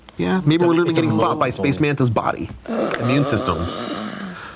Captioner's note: gasping